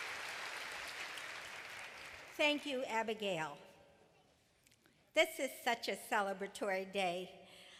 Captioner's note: applause